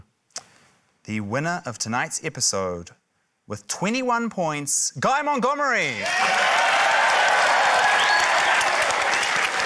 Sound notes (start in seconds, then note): 5.8 cheering, applause